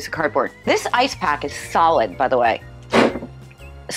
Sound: boom

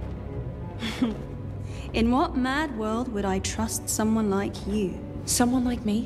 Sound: Caitlyn scoffs

